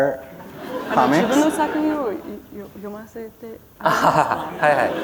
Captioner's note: laughter